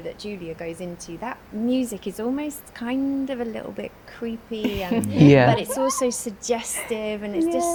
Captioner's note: laughter